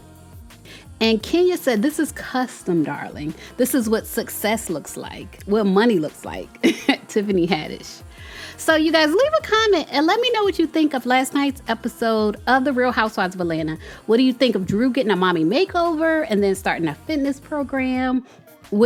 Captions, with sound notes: And Kenya said this is custom darling. This is what success looks like. What money looks like. (chuckles) Tiffany Haddish. So you guys leave a comment and let me know what you think of last night's episode of the Real Housewives of Atlanta. What do you think of Drew getting a mommy makeover and then starting a fitness program?